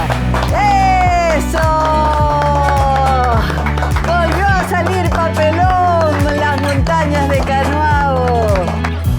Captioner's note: applause